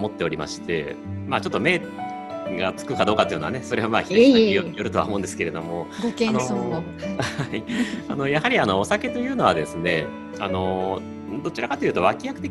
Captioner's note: laughs